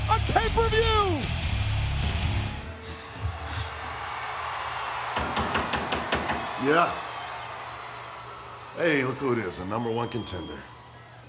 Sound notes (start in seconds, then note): 0.0 upbeat rock music; 3.3 crowd cheering; 5.4 knuckles rapping